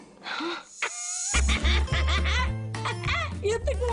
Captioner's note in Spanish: Risas